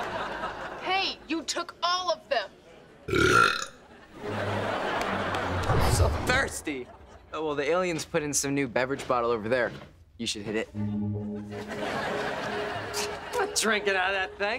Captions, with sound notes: Hey, you took all of them. [belching] I'm so thirsty. Oh, well, the aliens put in some new beverage bottle over there. You should hit it. I'm not drinking out of that thing.